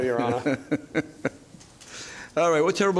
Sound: judge laughing

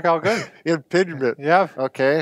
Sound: laughing

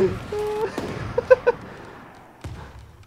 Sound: chuckle

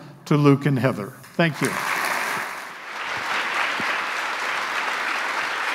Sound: audience applauding

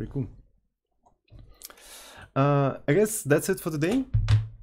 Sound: clap

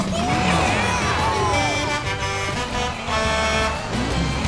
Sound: cheering; horn honking

